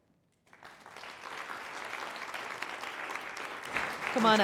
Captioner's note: applause